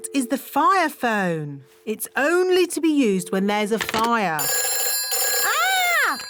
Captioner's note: phone rings